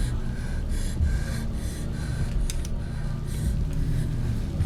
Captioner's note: breathes heavily